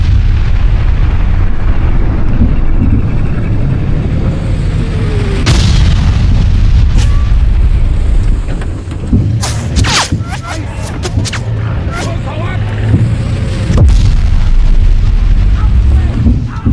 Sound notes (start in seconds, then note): 7.3 weapons bullets fly